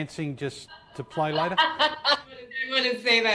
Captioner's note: laughing